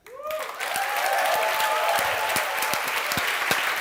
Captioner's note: applaud